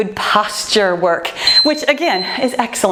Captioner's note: timer beeps